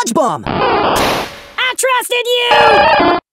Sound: screaming

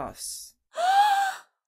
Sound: gasps

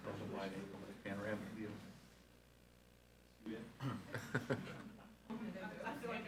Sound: speaking faintly

